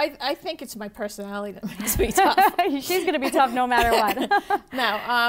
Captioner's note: laughing